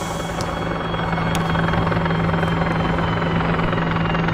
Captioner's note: sirens and helicopter overhead